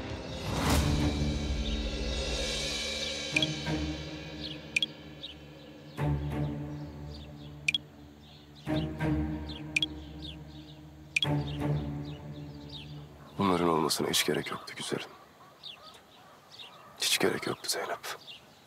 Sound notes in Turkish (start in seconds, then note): 4.7 Bildirim sesi; 7.6 Bildirim sesi; 11.2 Bildirim sesleri